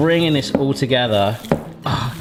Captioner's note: mixture squishing